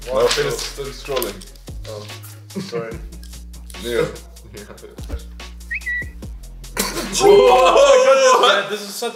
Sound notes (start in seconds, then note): 5.6 graphics whooshing and whistling